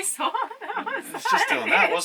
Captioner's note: laughs